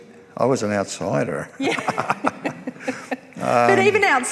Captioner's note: laughs